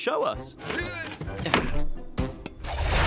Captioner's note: grunts